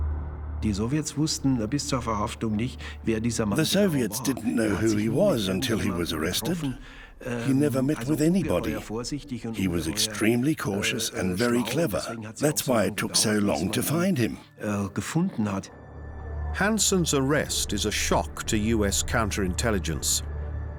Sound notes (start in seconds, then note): 0.7 speaking German